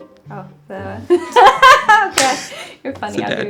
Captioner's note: laughs